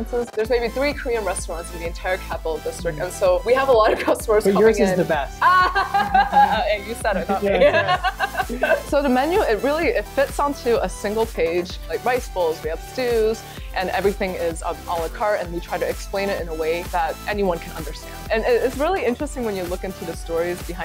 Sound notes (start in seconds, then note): 5.3 laughs